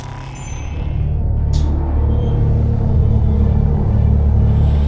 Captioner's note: metal groaning